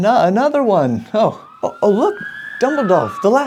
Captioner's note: sirens approaching